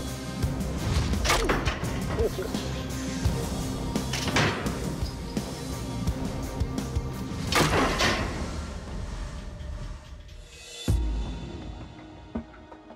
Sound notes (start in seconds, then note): 0.0 rock music; 2.0 laughs; 10.6 tense music